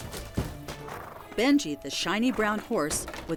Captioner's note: wood crashing; horse neighs